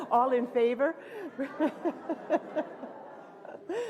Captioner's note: laughter